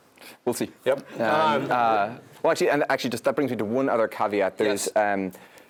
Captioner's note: laugh